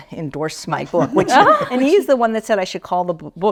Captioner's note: laughs